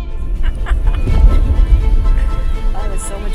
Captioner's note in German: Lachen